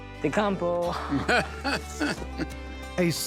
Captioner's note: laughing